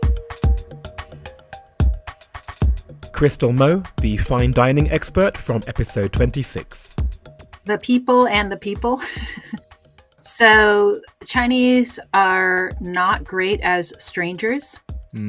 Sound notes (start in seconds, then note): 1.5 voiceover